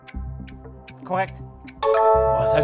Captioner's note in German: Klingeln